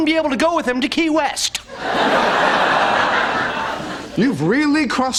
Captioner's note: laughter